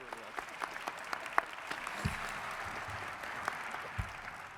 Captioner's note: audience applauds